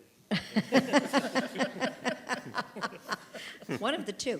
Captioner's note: laughing